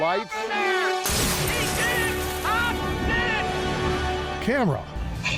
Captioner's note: audience cheering; upbeat music